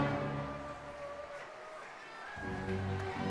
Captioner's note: crowd members cheering